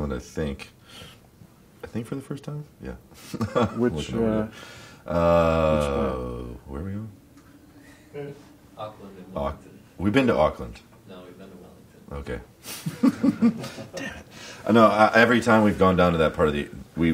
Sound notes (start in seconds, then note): 12.7 laughs